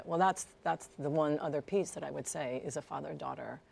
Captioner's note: none